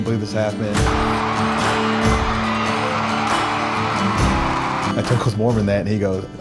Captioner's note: crowd cheering